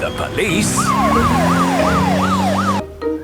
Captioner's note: siren wailing